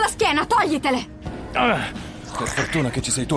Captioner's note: dragon grunts